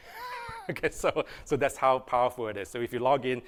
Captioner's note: laughter